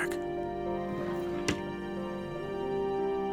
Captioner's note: drawer closes